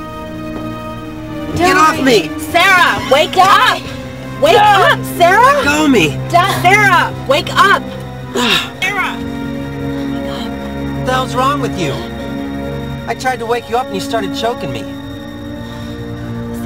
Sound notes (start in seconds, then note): 8.3 sigh